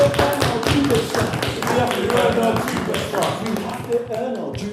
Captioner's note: clapping